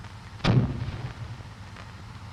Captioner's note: grenade launchers pop